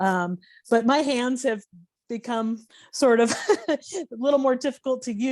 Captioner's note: laughing